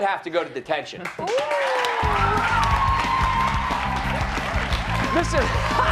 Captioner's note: cheers and applause